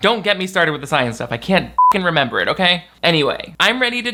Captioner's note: beep